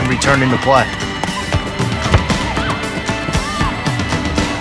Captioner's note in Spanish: pelota rebotando